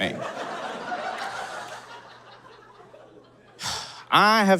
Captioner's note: audience cackles